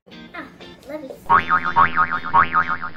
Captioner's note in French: boing, boing, boing